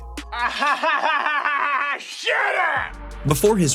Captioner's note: laughs